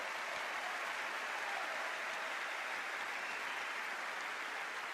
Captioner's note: applause